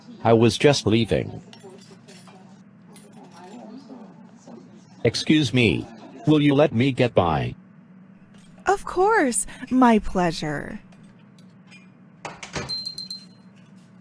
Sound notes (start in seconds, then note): 8.2 sarcastically overpolite; 12.3 door opens and closes, bell jingles